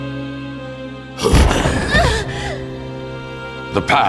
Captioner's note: growls